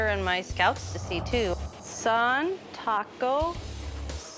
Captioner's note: non-english speech